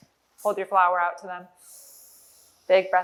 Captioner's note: inhale